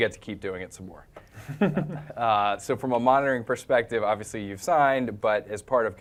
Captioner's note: laugh